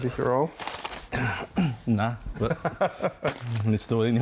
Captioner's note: laughs